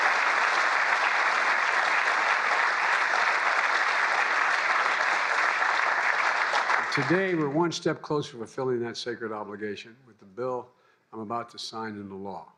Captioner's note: applause